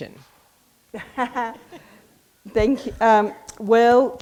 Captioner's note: all laughing